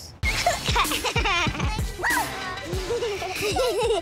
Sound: children laughing

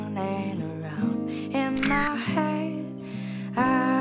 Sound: camera shot

